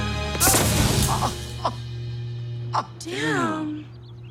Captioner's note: energy crackling